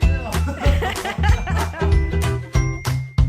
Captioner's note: laughing